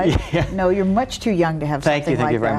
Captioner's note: laughs